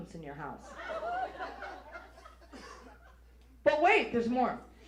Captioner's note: audience laughs